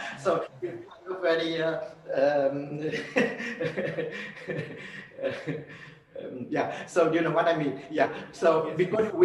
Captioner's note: laughs